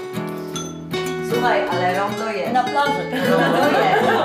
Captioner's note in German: sprechen polnisch